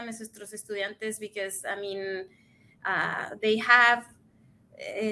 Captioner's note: speaks in Spanish